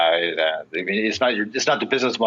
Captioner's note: stammers